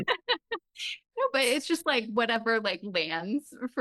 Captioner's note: laughs